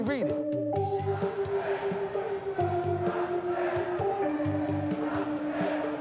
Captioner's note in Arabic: المتظاهرون يهتفون